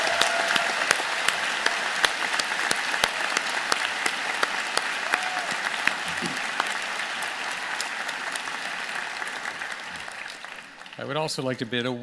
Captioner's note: applause